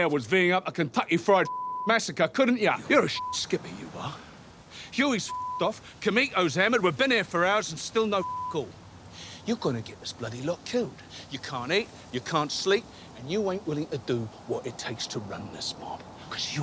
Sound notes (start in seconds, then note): 1.4 beep; 5.3 beep; 8.2 beep